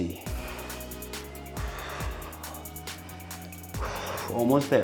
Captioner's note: breathing heavily; gentle music